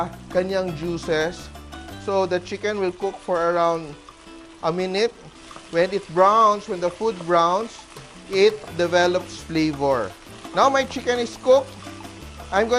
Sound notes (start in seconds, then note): 0.0 sizzle